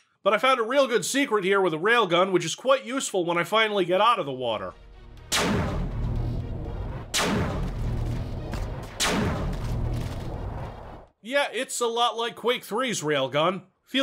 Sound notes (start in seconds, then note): none